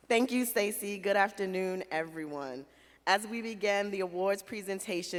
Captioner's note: none